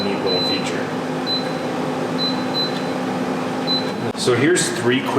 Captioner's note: beeping